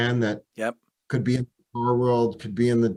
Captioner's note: call briefly cuts out